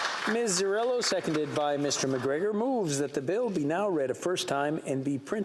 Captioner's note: applause